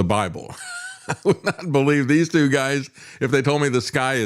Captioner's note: laughs